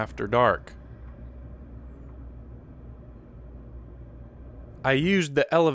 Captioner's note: cars going